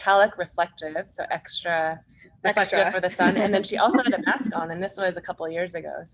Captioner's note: laughs